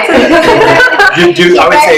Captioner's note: laughs